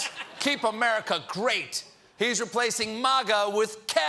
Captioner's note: laughter